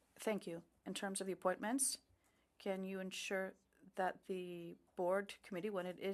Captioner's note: speaking French